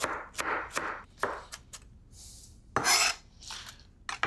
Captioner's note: knife chopping; knife scraping